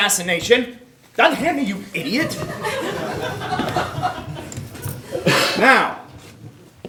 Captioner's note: audience laughing